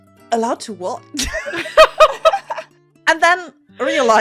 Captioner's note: laughter